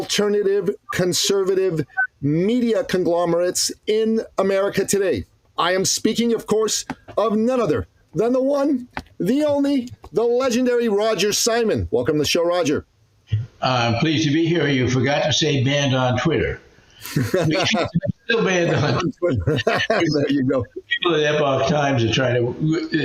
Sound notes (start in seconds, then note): 15.0 laughing